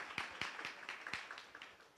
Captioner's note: applause